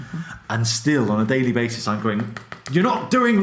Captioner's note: finger taps screen